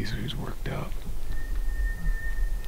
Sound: elk bugle

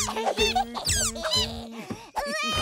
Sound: squeaking

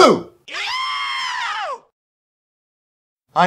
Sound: screams

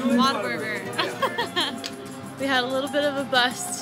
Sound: laughing

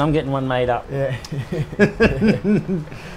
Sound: laughs

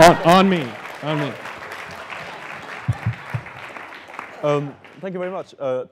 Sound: applause

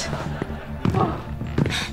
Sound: gasping

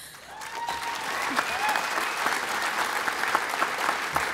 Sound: applause

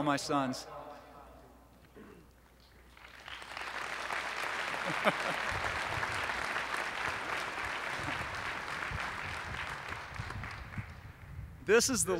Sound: applause

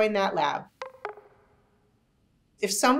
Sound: gentle popping

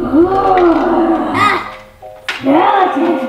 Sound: growling

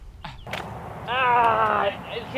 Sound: groans

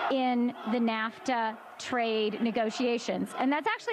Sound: chanting

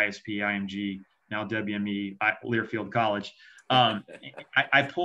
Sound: laughs

